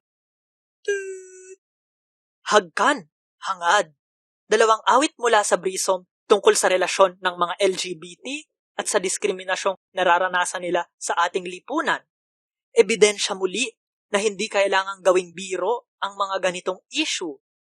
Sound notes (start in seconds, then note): 0.8 kiss